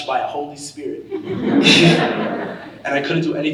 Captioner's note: audience laughing